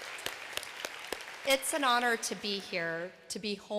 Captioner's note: applause